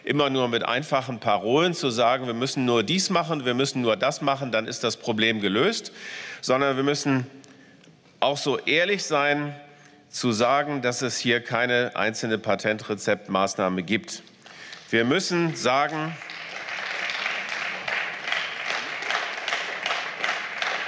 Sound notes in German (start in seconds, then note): 14.4 Beifall